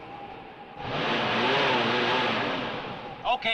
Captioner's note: engine revving